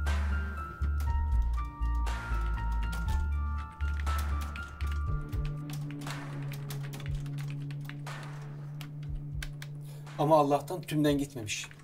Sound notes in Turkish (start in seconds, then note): 2.3 Klavye sesleri